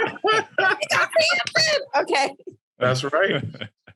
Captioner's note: all laughing